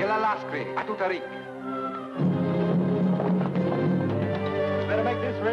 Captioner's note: speaks foreign language